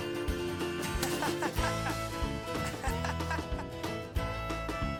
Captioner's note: Jack laughing